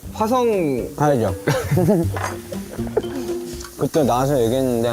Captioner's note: haha